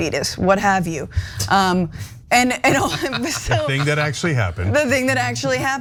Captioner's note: laugh